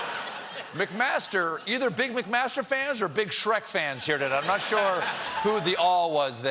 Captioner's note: laughter